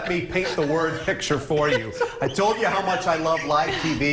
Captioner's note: laughter